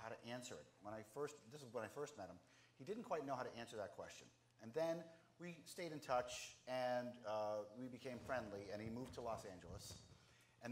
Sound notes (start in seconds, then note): none